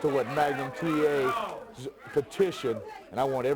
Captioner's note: crowd chatter